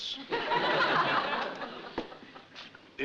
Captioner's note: audience laughing